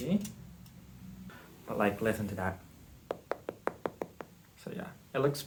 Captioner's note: tapping sounds